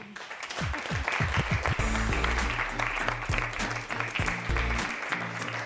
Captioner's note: applause